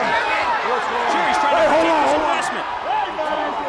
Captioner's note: crowd chatter